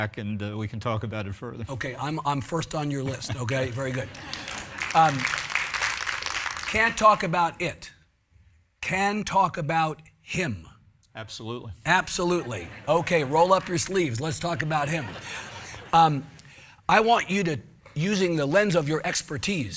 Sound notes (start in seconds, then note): 4.8 audience applauding; 15.3 audience laughing